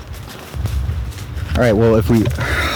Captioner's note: sighs